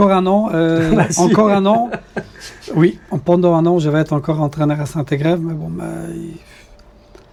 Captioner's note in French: rires